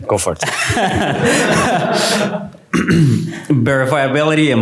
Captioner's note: laughter